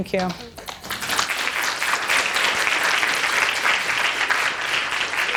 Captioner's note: audience applauding